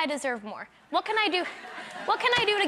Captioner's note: audience members laugh and clap